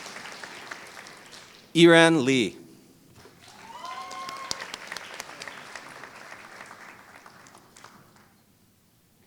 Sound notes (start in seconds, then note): 3.2 applause